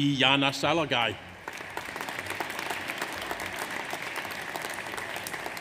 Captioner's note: audience applauds